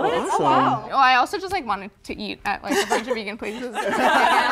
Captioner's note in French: rires